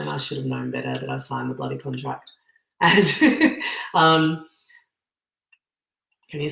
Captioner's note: laughs